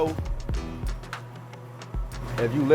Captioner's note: machine humming